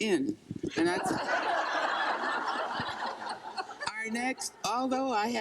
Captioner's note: crowd laughing